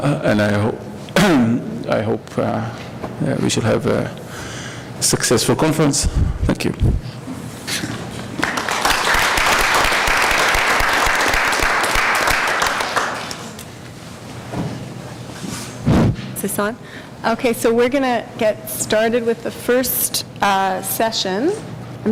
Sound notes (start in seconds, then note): 8.3 applause